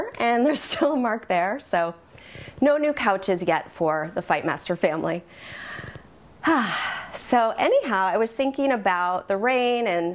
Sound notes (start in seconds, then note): 6.4 sigh